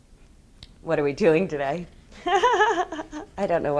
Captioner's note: laughs